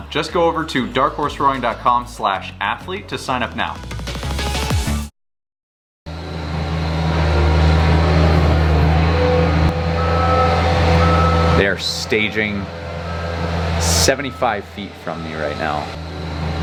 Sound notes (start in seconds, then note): 4.1 upbeat music; 7.0 truck whirring and beeping; 16.4 truck whirring and beeping